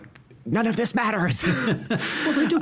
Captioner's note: both laughing